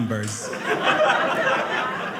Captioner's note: audience laughing